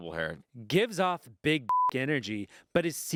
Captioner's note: beep